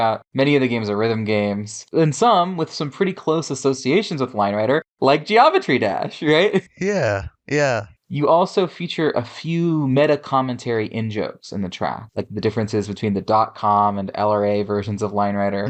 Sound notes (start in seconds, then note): 6.8 laughs